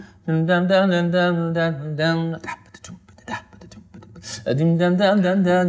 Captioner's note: humming